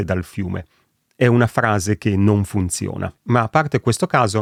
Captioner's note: in Italian